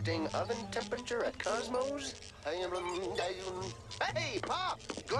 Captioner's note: computer humming